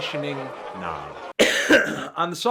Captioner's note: koff